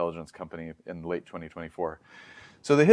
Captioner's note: inhales